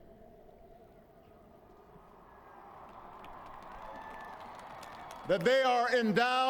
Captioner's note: applause